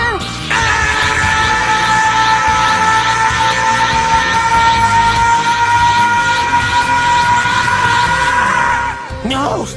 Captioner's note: more Goku yelling